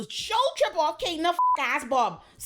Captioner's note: beep